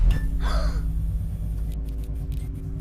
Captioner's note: gasp; light flickering